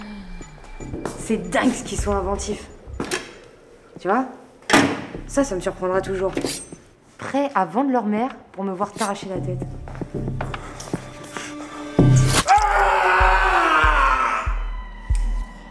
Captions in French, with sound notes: C'est dingue ce qu'ils sont inventifs ! Tu vois, ça, ça me surprendra toujours : prêts à vendre leur mère pour me voir t'arracher la tête *cri*